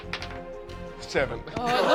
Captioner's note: rolls dice